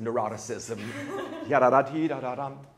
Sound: laughs

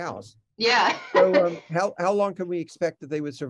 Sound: laughs

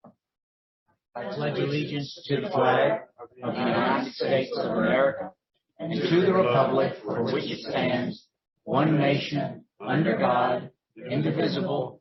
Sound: The Pledge of Allegiance recited in unison

